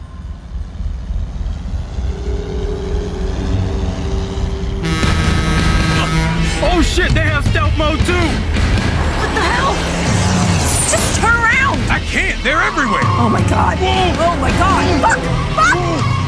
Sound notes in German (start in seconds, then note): 0.3 Rumpeln; 4.4 Hupen